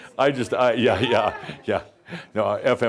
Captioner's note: chuckles